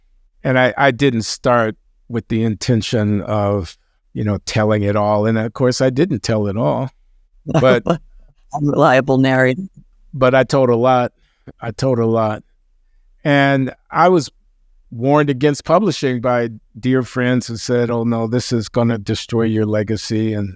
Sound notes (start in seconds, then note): 7.5 laughs